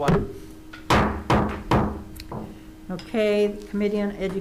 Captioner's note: gavel banging on table